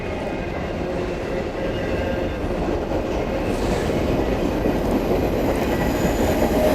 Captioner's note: sound of train